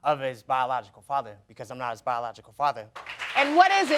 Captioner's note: audience applauding